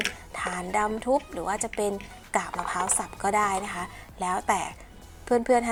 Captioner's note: washed gravel or broken crocks